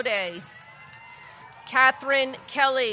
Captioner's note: audience cheering